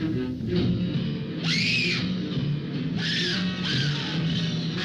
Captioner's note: Marion screaming